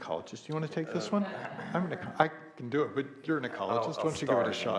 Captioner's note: laughs